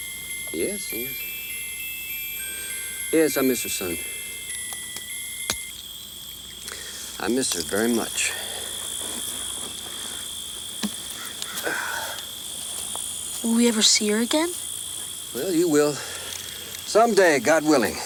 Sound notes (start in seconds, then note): 4.2 pocket watch clicks; 11.6 Anthony sighs